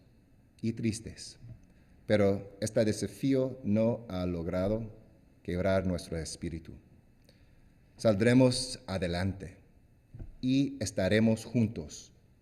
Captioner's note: speaking spanish